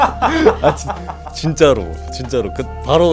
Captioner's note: laughs